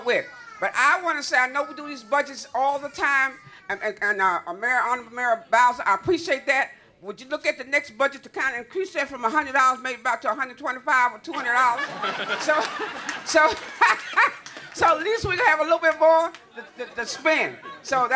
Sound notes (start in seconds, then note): 11.6 laughter